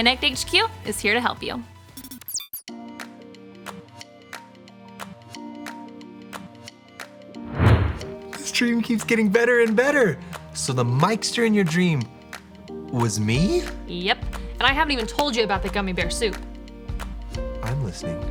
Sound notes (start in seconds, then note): 2.6 digital beeping; 4.3 upbeat music; 7.4 whooshing